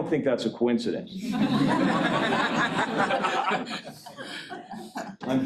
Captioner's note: laughter